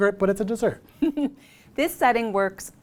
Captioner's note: giggles